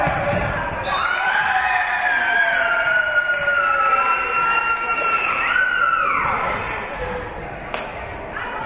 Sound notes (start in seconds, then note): 0.0 spectators cheering; 0.8 whistle being blown; 1.1 spectators cheering and applauding; 8.4 spectators shouting encouragements